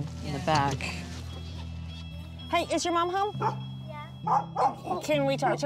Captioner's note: dog barks